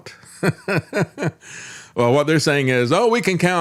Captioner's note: laughs